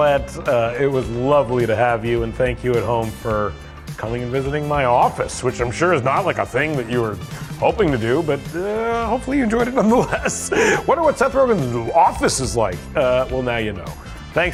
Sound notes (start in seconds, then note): 9.8 laughs